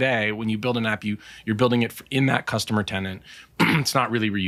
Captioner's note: clears throat